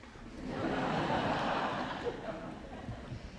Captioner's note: audience laughs